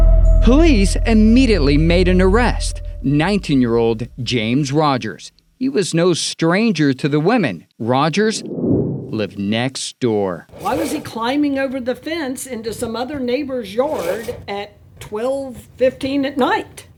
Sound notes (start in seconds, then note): 8.4 transition whooshes